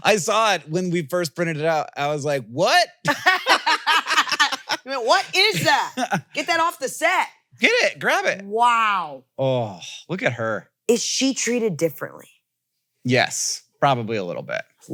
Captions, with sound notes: I saw it when we first printed it out. I was like, "What?" (both laugh) You went, "What is that? Get that off the set." Get it. Grab it. Wow. Oh, look at her. Is she treated differently? Yes. Probably a little bit.